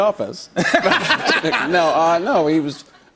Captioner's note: laughter